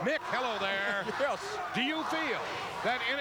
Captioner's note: chuckles